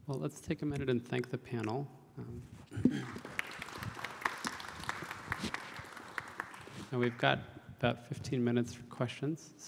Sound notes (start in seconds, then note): 2.9 audience claps